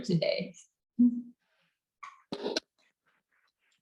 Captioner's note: both chuckles